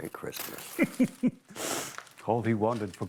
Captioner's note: chuckles